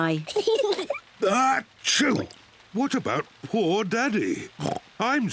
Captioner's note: kids giggle; sneezes; oinks